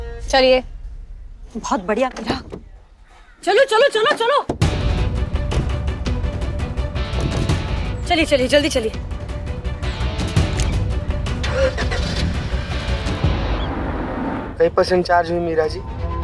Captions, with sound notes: - Come on. - Great, Mira. Come on! Let's go! [intense music] Let's go. Quickly. [engine starting] Did you charge a bit, Mira?